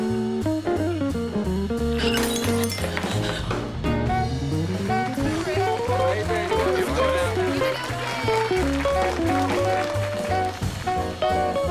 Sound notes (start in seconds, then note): 2.0 glass shatters; 4.2 crowd applauding; 4.5 crowd cheering